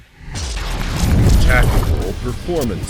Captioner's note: explosion booms